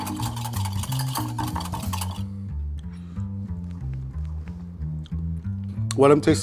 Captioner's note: quirky jazz music; vigorous whisking